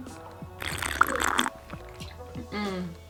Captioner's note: slurping sound